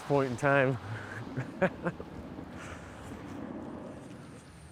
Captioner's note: laughs